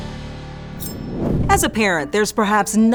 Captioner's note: air whooshes